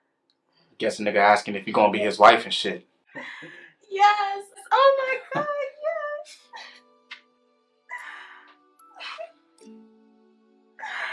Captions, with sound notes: I guess a nigga asking if you gonna be his wife and shit. - Yes. Oh my God, yes. (both laughing) (gentle music)